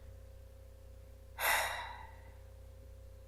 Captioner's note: sigh